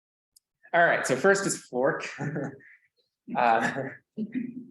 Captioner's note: laughs